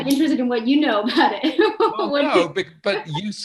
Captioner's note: laughing